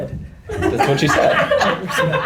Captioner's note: laughter